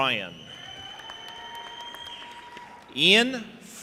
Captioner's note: audience applauding and cheering